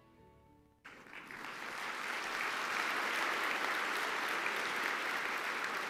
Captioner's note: applause